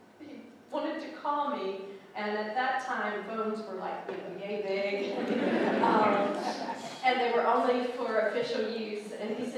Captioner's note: laughing